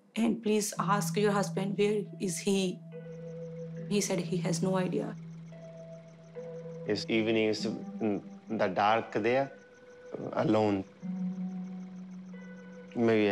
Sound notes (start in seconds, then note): 5.5 crickets chirp